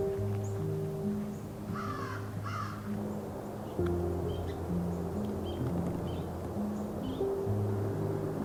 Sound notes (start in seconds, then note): 2.4 crow cawing